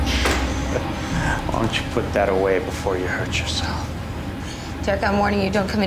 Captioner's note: chuckling